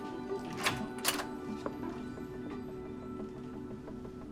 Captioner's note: door clicks